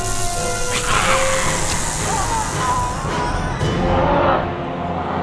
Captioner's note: dinosaur hisses; dinosaur roars